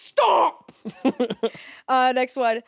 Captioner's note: Jacksepticeye chuckling